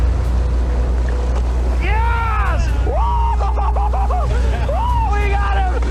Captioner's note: laughing